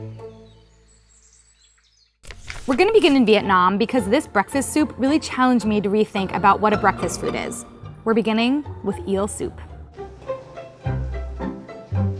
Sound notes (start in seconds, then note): 4.0 upbeat music; 7.0 speaking a foreign language